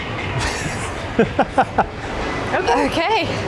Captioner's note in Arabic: يضحك